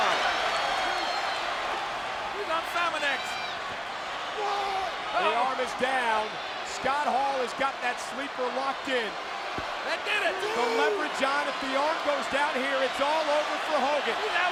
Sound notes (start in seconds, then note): 1.0 crowd cheering